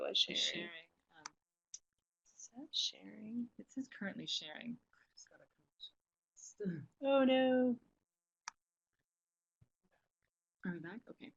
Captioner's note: long pause